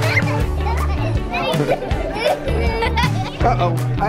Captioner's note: girls laughing